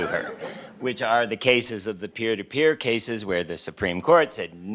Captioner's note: laughter